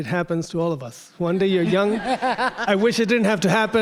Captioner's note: everyone laughing